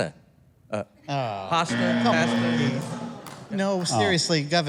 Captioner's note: buzzing